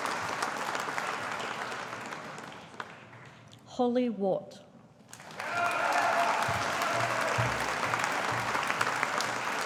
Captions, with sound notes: Hollie Watt. (AUDIENCE APPLAUDING)